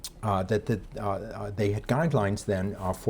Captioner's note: none